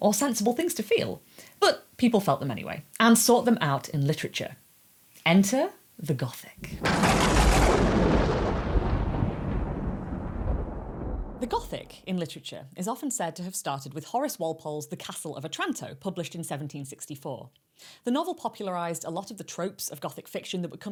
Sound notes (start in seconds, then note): 6.6 thunder clap sound effect